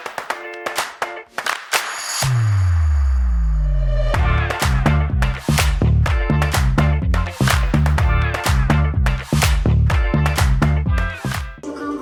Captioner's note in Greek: χειροκρότημα